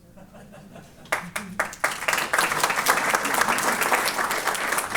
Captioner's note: applause